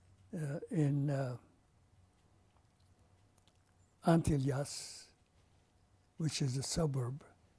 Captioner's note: pauses for 3 seconds